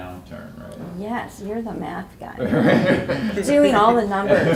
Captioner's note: laughing